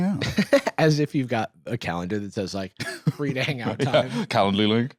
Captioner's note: laughs